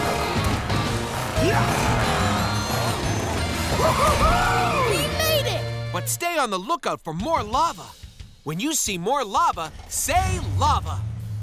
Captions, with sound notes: [grunting] -Whoo-hoo-hoo! -We made it! But stay on the lookout for more lava. When you see more lava, say "Lava."